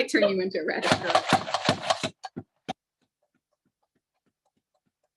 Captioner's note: mandoline clacking